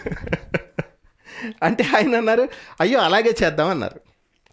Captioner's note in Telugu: నవ్వు